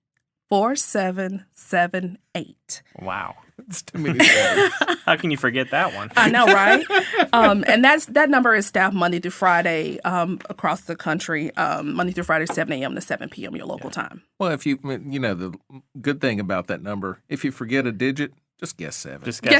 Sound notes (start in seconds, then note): 3.9 all laughing; 7.0 laughing